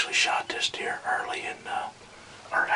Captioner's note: whispering